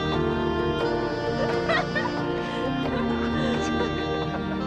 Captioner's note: silly laughing